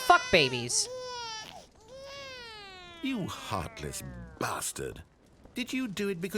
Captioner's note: baby wailing drops in pitch, stops